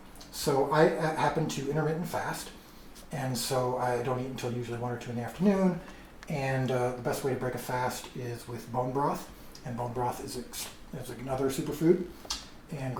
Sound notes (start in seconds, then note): none